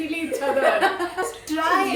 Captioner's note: hahahaha